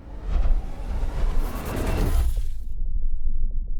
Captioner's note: whooshing